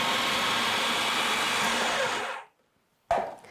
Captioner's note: food processor whirring